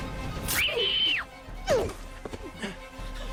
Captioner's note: tense music; Sharon shrieks; Vincent groans